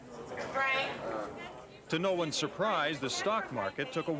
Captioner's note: indistinct chatter